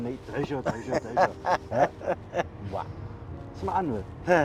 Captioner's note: laughs